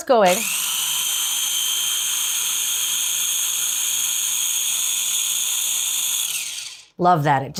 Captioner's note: food processor whirring